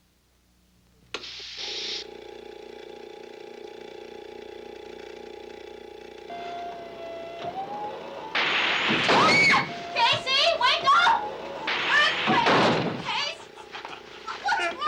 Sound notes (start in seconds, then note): 2.1 alarm buzzing; 2.1 clock ticks; 8.7 bed thuds; 9.9 Marcia screams; 13.0 Casey laughing